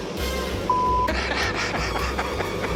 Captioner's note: laughs